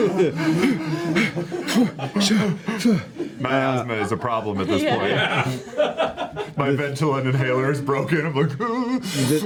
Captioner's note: heavy breathing